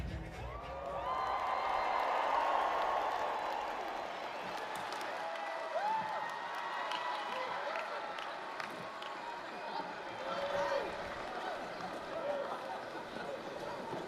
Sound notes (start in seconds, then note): 0.4 applause, cheering